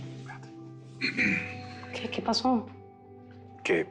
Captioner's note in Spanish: Carraspea